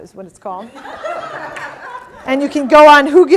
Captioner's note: audience laughing